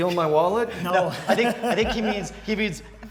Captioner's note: laughs